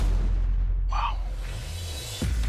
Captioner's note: whispers